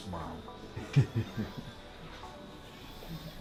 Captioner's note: chuckles